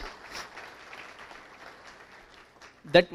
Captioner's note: applause